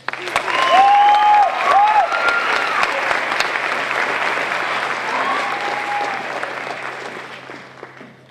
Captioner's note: applause